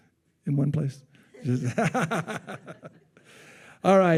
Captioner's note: laughing